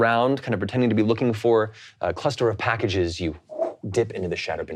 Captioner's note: imitates air whooshing